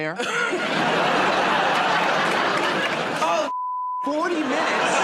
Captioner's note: laughter and applause